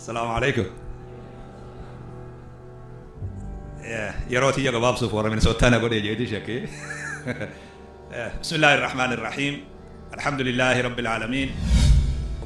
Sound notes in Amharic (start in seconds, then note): 6.6 ሳቅ